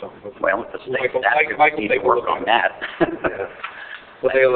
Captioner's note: chuckles